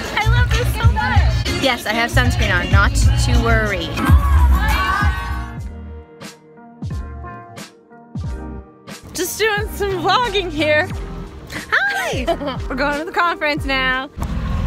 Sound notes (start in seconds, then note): 5.7 smooth music; 11.5 laughs